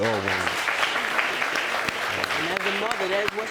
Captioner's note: audience applauding